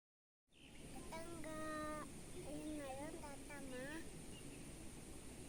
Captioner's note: speaking Indonesian